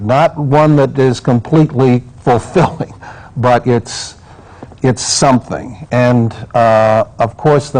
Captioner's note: laughs